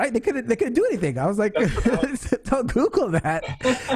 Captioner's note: laughs